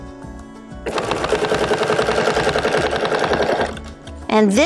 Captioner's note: machine whirring